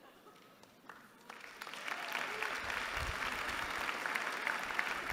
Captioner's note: applause